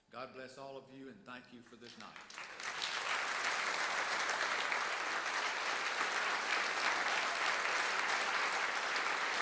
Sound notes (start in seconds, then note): 1.8 applause